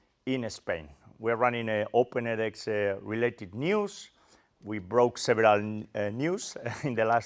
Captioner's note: laugh